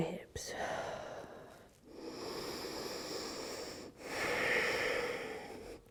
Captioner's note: deep breathing